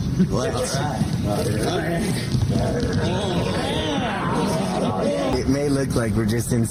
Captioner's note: Jackass cast noises